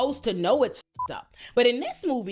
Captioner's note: beep